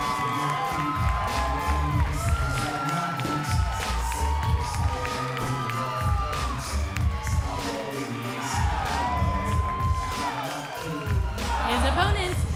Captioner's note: crowd cheering